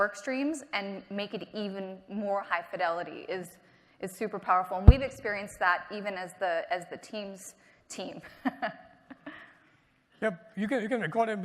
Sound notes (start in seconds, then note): 8.2 laughter